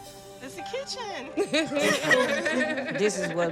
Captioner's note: laughing